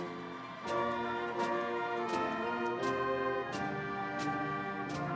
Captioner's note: audience cheering